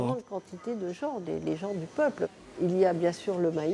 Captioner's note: French spoken audio